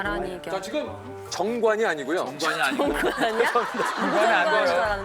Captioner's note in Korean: 푸흡